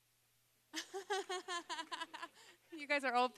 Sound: laughing

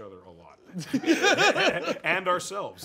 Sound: laughter

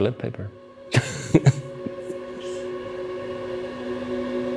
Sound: laughing

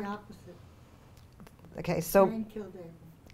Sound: voiceover

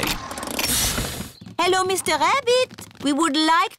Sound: engine stops

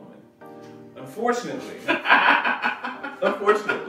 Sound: laughs

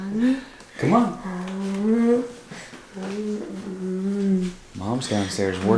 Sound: laughing; moaning

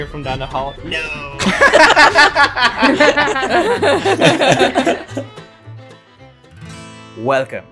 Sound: laughter

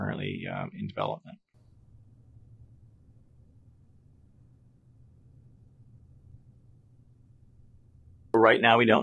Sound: silence

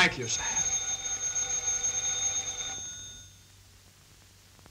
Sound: phone ringing

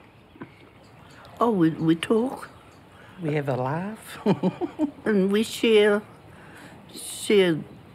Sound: chuckles

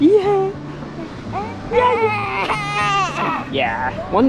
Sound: babbles

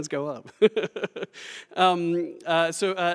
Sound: laughter

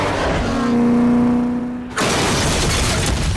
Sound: crashing

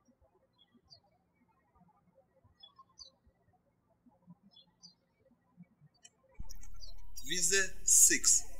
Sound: birds chirping

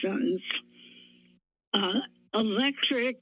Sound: none

